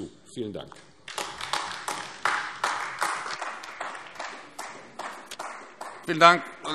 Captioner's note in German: Beifall AfD